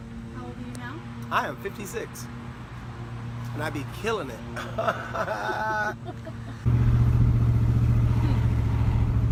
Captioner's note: laughs